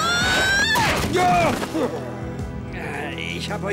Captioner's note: whack